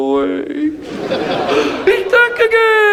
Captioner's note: audience laughs